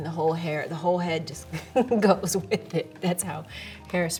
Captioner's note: laughs